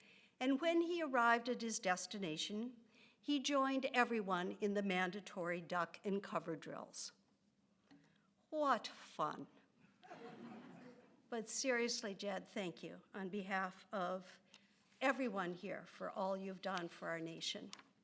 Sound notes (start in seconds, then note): 10.0 audience laughs